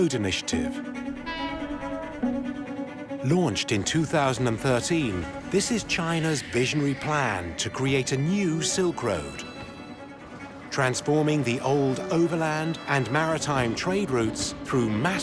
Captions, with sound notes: by the "Belt and Road" initiative. [train horn blows] Launched in 2013, this is China's visionary plan to create a new Silk Road, transforming the old overland and maritime trade routes